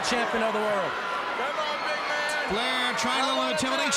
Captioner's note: crowd cheering